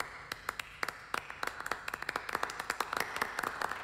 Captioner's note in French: Applaudissements polis